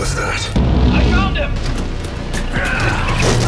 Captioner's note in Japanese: 通信：ウルトラマン